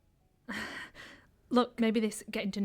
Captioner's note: Ella breathing heavily